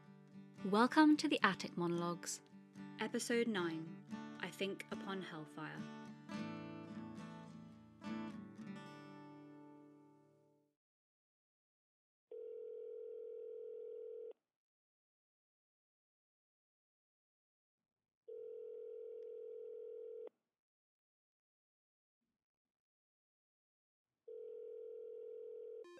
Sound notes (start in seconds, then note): 8.6 soft guitar music fades out; 12.3 phone ringing